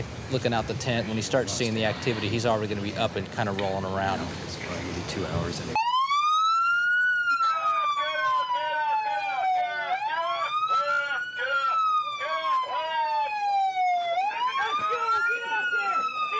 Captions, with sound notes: looking out the tent when he starts seeing the activity, he's already going to be up and kind of rolling around. [Loud siren] [Instructor on megaphone] Get up, get up! Let's go! Get out there!